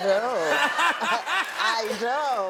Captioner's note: all laughing